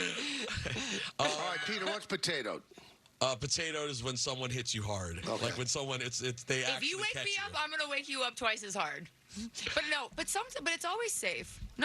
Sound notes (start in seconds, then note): 5.2 laughing